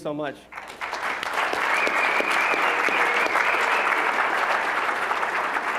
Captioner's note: applause